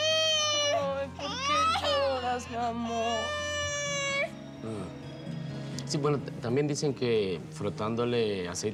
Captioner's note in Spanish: Llanto del niño